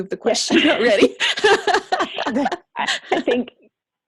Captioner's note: laughing